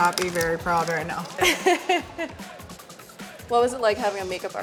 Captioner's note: laughing